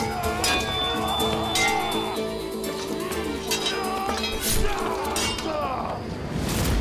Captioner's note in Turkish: Müzik - Gerilim; Dövüş sesleri; Kılıç sesleri